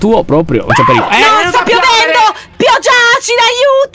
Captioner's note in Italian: urla